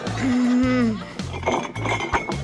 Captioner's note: groans